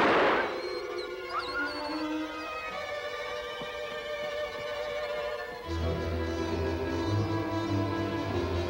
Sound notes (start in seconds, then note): 0.6 Shep whining; 5.7 intense music